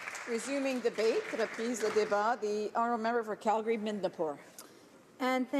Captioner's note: some applause